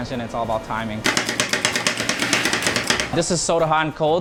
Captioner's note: ice cream chopping